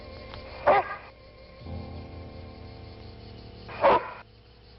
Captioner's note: dog barking